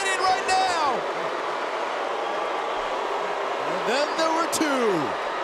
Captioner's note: crowd booing